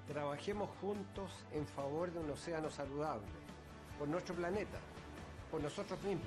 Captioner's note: in Spanish